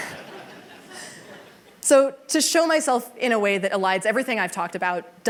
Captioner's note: laughter